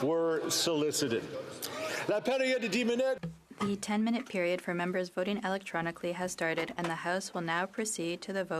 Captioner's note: speaking French